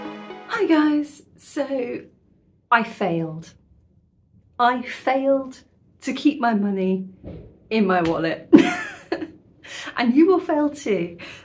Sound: laughing

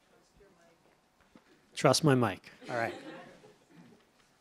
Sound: chuckles

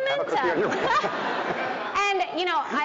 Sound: audience laughing

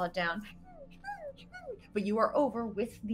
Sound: Deborah whimpers

